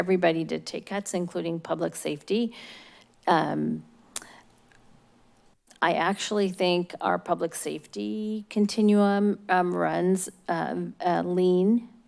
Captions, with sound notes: Everybody did take cuts, including public safety. [smacks lips] I actually think our public safety continuum runs lean,